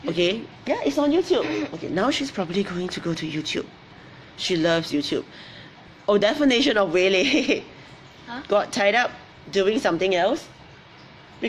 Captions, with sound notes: okay, - YouTube? - Yeah, it's on YouTube. Now she's probably going to go to YouTube. She loves YouTube. Oh definition of waylaid. (laughs) - Huh? - Got tied up doing something else.